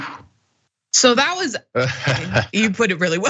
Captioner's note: laugh